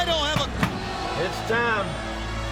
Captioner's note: knocking on door